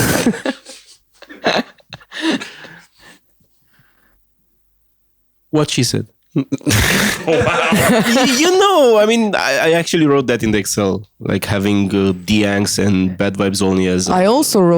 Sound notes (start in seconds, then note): 1.2 laughter; 6.4 laughs